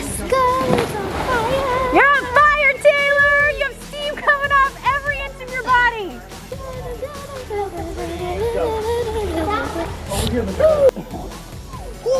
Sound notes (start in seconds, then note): 0.0 cheering; 6.4 humming; 11.1 chuckling; 11.9 murmuring